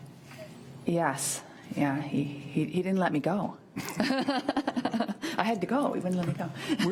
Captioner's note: laughs